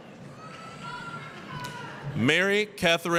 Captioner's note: applause, cheering